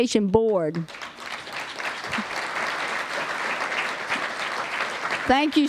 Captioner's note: applause